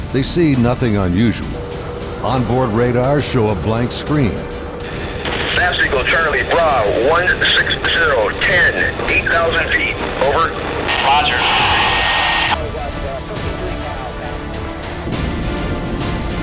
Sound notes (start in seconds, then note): 5.7 voiceover